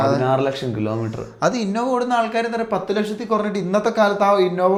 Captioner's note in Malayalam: ചീറ്റുന്നു